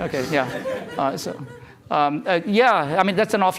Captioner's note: laughter